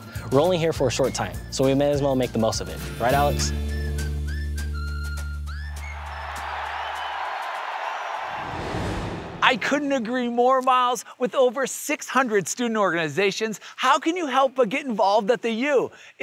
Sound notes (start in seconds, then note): 4.0 upbeat music; 5.6 crowd cheering